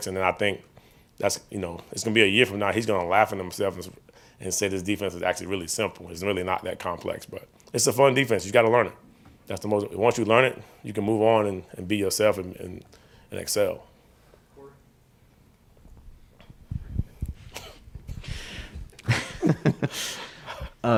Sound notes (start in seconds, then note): 18.9 all chuckling